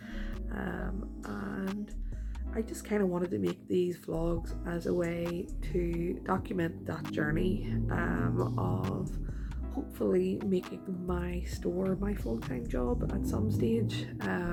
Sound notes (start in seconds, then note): 5.0 car noises; 11.8 more car noises